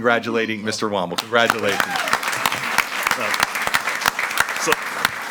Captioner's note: all applauding